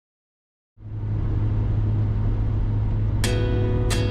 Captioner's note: steady road noise fades in